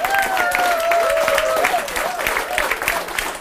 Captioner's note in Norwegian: Applaus